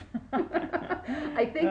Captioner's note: laughing